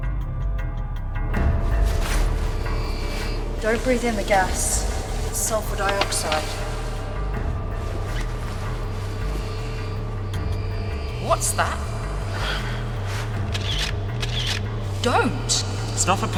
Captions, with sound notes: (suspenseful orchestral music) - Don't breathe in the gas, it's sulfur dioxide. What's that? (shutter clicking) Don't!